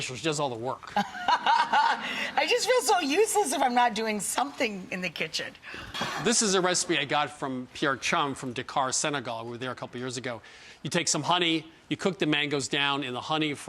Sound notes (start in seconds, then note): 1.0 & audience laugh